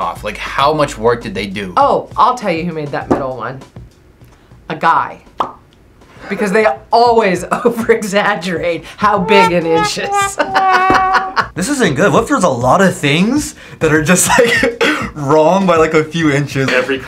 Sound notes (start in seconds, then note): 9.0 sad horn music; 9.3 laughs; 16.4 laughs